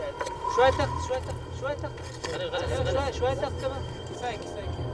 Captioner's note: Arabic spoken audio